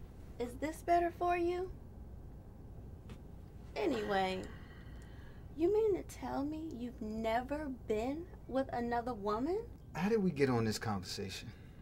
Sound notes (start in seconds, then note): none